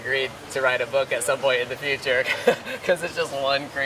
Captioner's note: laughs